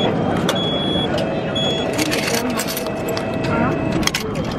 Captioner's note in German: Piep klingt